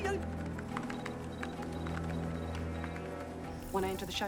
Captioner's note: Korean; electronic Beeping